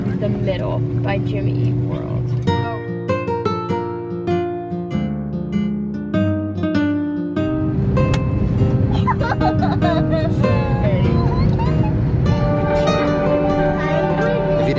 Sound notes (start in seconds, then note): 2.5 bright music; 8.9 laughs